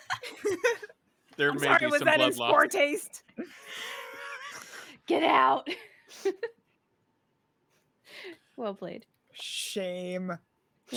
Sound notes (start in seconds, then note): 5.6 laughs